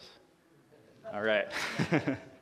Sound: laughs

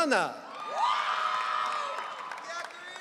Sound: audience cheering

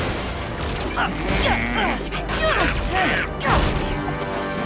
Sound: Sails and Mangey groaning

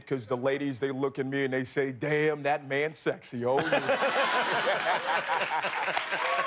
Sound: laughter

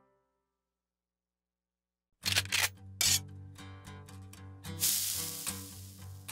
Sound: sizzle; guncocks

